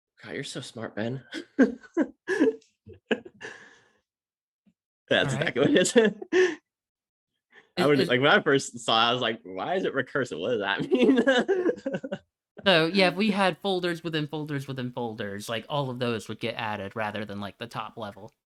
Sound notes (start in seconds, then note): 1.6 both chuckle; 10.7 laughs